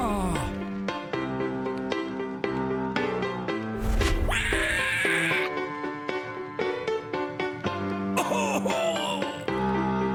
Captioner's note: upbeat music; whooshing